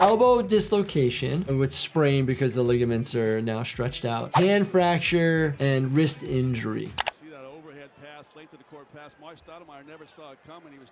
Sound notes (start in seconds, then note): 4.3 audio whooshes; 7.0 video clicks